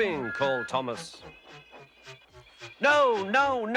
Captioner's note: brakes screech